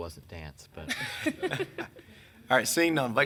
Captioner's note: people chuckling